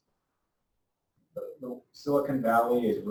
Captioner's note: pause